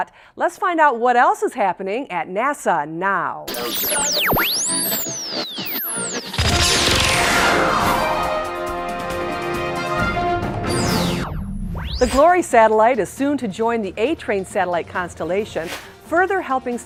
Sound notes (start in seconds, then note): 3.4 sound Effects